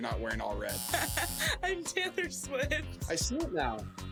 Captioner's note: laughs